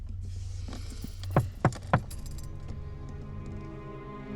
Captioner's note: window knocks; suspenseful music